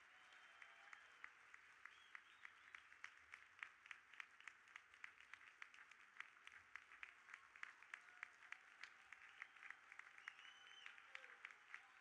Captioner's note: audience applauding